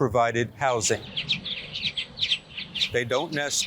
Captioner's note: birds chirping